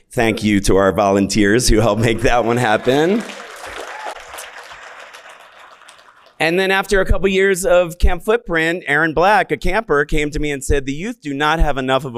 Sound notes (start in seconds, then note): 2.0 audience clapping